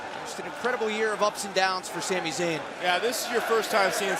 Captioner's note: crowd cheering